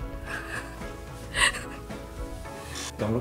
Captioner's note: laughs